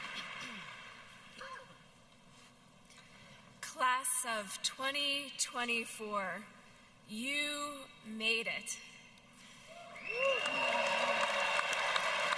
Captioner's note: applause